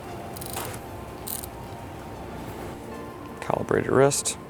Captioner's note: tool clicks